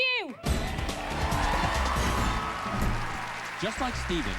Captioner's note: cheers and applause